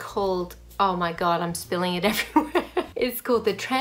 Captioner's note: laughs